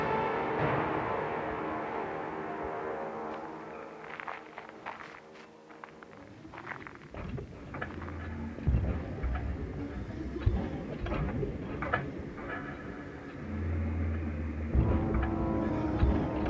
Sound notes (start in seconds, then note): 7.8 mechanical movement; 14.6 large impacts